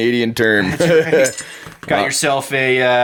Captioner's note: laughing